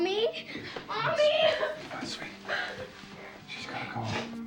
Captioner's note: sobbing